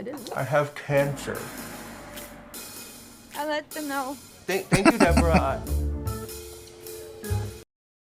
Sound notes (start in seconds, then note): 4.7 laughing